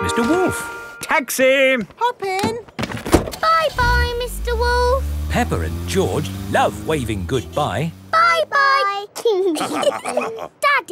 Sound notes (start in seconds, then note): 3.3 engine starts; 9.4 all laughing